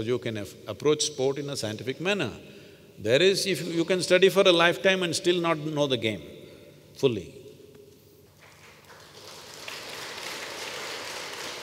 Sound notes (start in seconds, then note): 8.4 applause